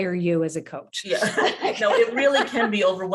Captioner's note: laughs